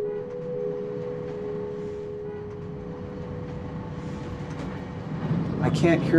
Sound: sound of train car on tracks

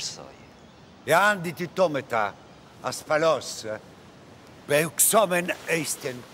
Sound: general speaking in foreign language

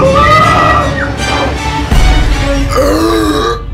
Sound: Velma and Fred screaming; Shaggy burps

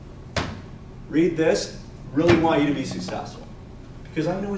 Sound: bangs

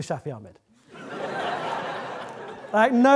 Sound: audience laughing

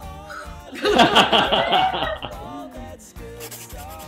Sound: laughter

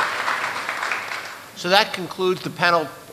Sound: applause

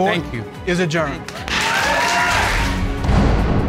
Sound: all applauding

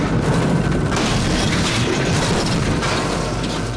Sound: crash

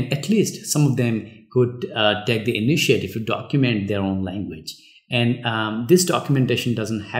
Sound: uh

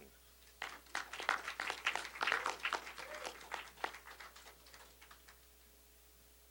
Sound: applause

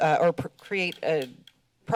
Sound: none

